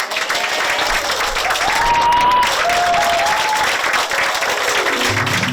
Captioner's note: applause; 박수